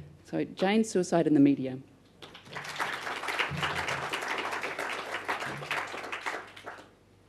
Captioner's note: audience applause